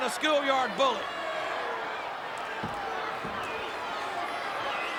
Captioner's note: crowd yelling